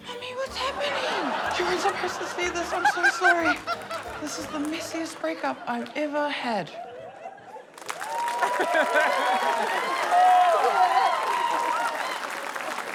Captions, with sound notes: - Mummy, what's happening? - You weren't supposed to see this. (RAUCOUS LAUGHTER) I'm so sorry. This is the messiest break-up I've ever had. (APPLAUSE) (CHEERING, LAUGHTER)